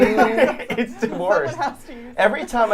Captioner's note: laughing